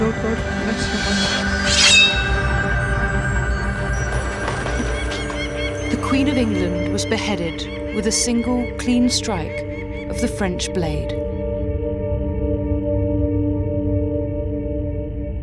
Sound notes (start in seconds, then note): 1.7 sword unsheathes; 4.0 wings flap; 4.8 falcon cries; 11.9 tense brooding music